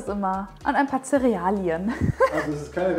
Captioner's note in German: lacht